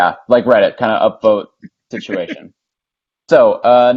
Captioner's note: laughs